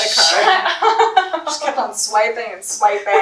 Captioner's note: laughs